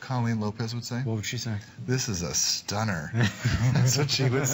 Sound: laughter

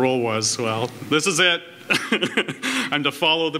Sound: laughs

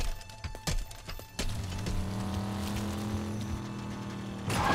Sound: vehicle approaching; tires screeching

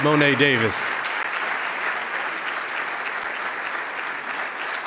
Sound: loud clapping

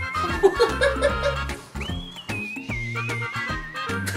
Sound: laughing

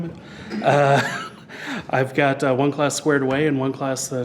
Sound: chuckles

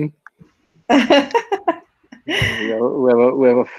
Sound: laughing

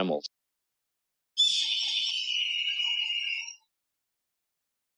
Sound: young red-tail hawk calls

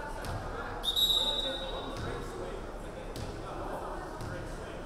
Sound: referee whistling

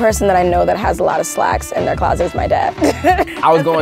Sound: laughs

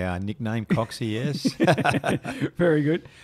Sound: chuckling

